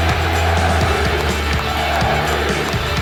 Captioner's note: cheers and applause